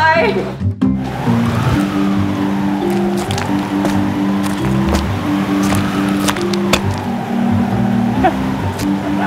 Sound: wind howling

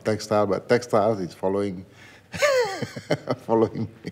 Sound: laughs

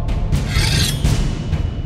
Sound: blade slices

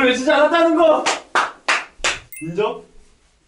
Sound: applause of satisfaction

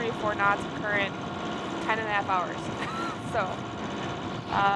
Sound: laughs

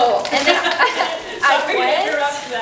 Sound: laughs loudly

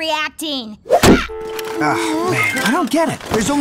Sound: dial tone

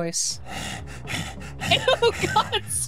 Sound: Don Corneo Panting

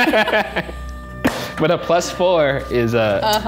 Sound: laughing; clap

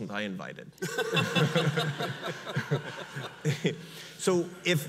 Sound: audience laughs

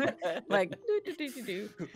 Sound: chuckling

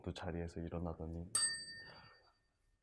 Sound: chime

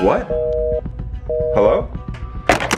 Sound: phone beeping

